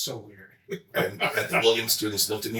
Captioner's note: chuckling